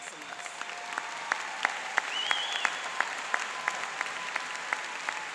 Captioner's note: applauding and cheering